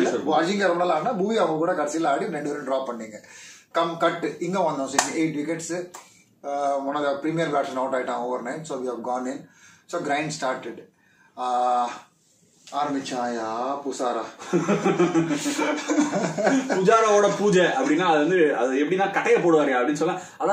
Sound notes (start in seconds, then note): 14.4 laughs